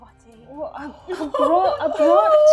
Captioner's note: laughing